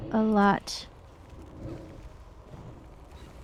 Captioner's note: wind howling